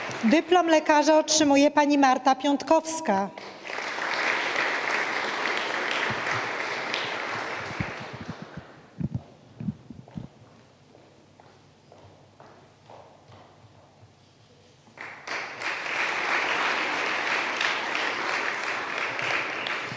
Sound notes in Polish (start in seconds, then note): 5.0 oklaski